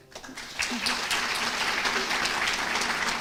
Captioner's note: applause